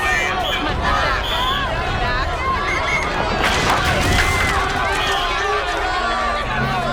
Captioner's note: crowd shouting